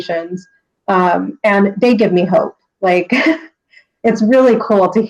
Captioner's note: laughs